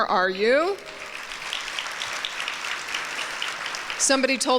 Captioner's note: applause